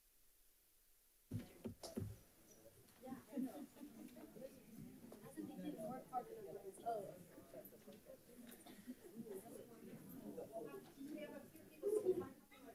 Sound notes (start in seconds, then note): 5.5 light chatter